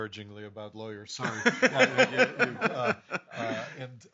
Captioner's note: laughing